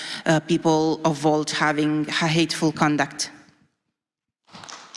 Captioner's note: applause